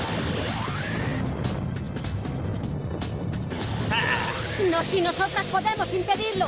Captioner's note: blasts